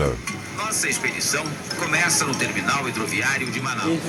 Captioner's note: Portuguese spoken audio